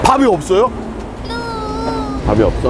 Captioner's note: disappointed